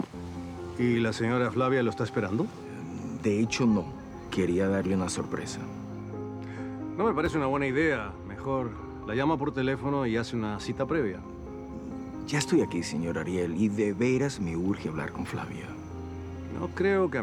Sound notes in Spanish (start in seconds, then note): none